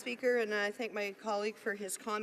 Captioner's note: speaking French